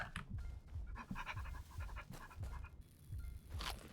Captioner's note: panting